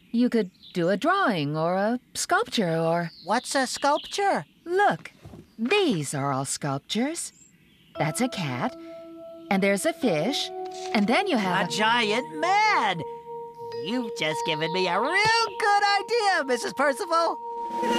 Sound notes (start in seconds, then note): none